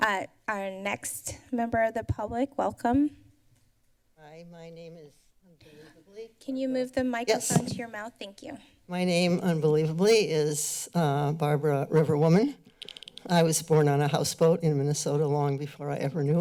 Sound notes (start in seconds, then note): none